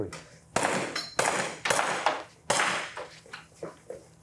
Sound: gunshots

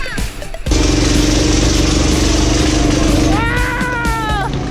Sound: motors roaring

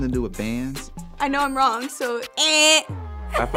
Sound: laughs

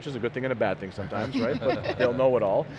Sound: laughing

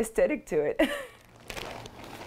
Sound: laughter

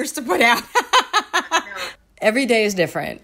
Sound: laughing

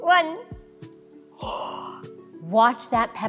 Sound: gasps

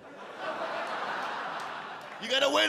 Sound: audience laugh

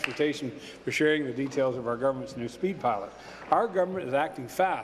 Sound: applause

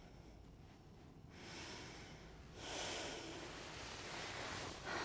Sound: woman exhales deeply

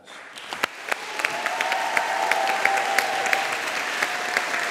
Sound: audience applauding and cheering

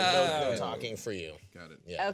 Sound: group murmuring

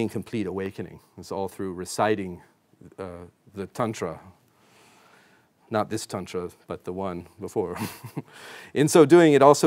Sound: chuckles

